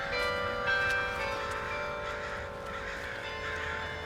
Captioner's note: crows cawing